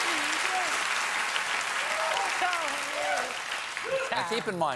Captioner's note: applause